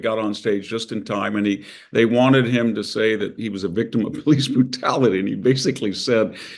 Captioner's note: laugh